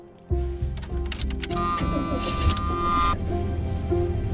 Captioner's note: car starting